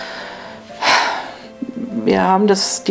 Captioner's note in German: Sie seufzt